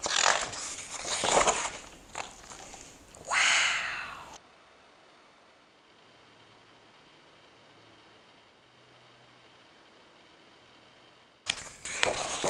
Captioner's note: silence